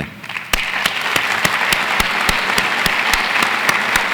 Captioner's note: audience applauds